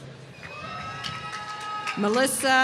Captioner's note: applause